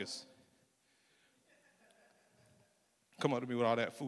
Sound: laughter

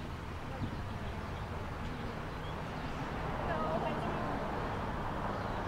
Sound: children muttering

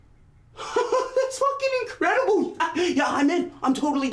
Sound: laughs

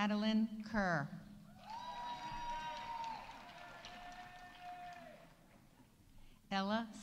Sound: audience cheering; audience applauding

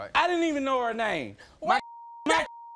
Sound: beep

